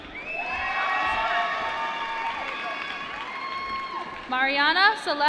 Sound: applause

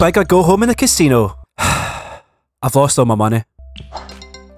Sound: sigh

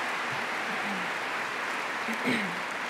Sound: applause

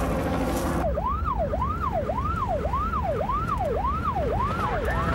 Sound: siren

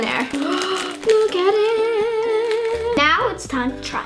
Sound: gasps

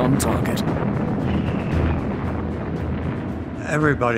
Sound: bombs explode

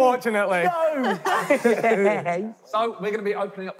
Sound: laughing

